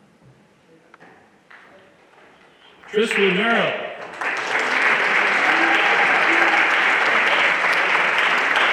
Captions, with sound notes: Tristan Merrill. (everyone applauding)